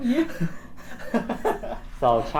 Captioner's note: laughter